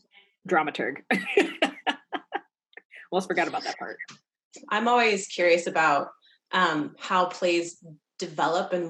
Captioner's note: laugh